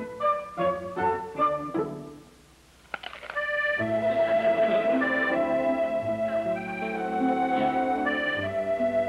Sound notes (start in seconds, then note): 2.9 apple crunches